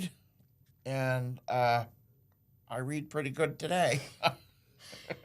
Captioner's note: laughs